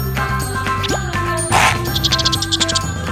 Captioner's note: loud crunch and chatters